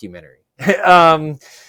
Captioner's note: laughs